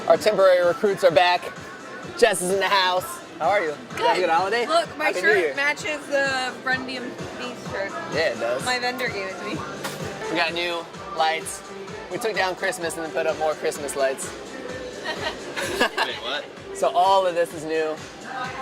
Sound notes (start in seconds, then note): 14.8 laughing